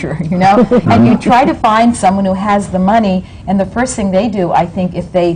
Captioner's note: laughter